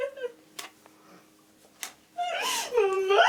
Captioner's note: girl crying